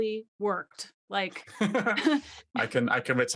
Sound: laughing

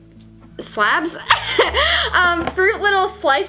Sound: laughs

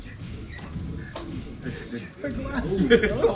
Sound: laugh

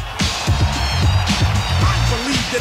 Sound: crowd roars back

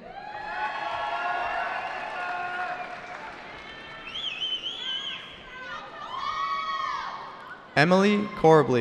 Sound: cheering

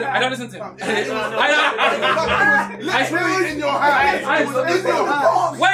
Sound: all laughing and chattering

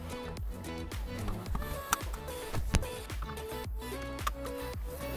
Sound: upbeat music; seatbelt clicks

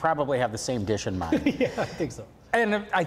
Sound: laughing

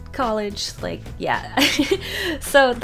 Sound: laughs

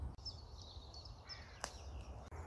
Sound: bird song

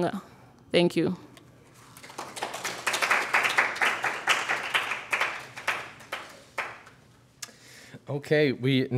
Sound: applause

